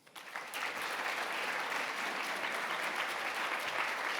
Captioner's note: audience applauding